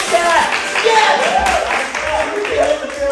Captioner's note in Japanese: 拍手